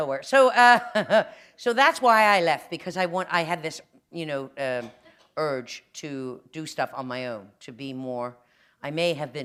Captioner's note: chuckle